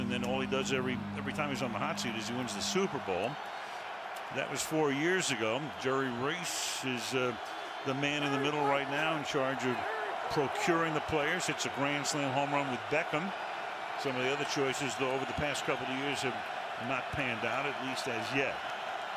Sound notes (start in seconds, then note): 14.7 cheering